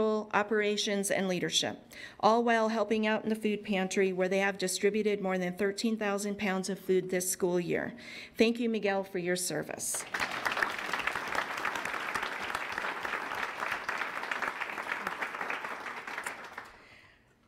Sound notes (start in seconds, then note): 9.9 applause